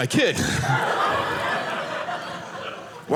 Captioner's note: audience laughing